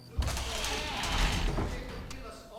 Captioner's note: door creaks